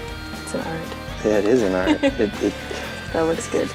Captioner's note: laughs